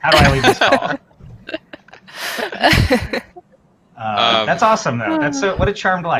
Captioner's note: laughter